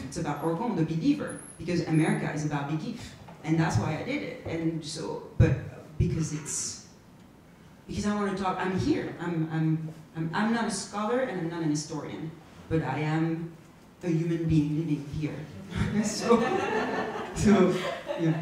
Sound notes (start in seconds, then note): 16.0 audience laughs; 16.0 laughs